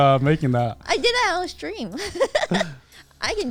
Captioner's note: laughs